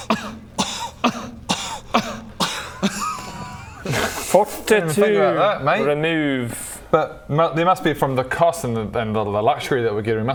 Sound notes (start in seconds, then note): 0.0 kuh; 2.7 kahahaha